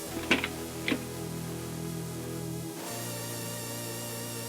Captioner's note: none